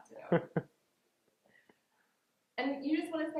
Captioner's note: laughing